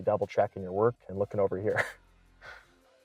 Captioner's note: laughing